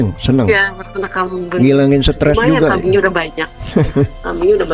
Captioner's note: tertawa